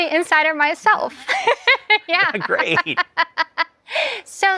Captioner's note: laughs